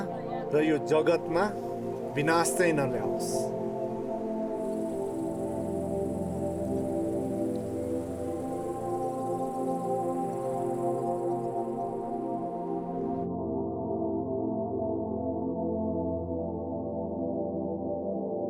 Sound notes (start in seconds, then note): 6.0 wind rustling, birds chirping